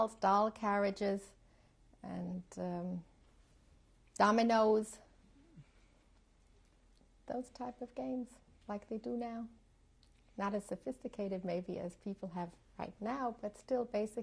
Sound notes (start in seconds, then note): 4.5 pauses for 3 seconds